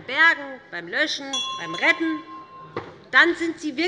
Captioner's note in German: Unruhe - Glockenzeichen des Präsidenten